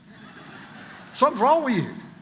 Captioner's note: congregation laughs